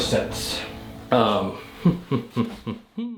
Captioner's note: laughing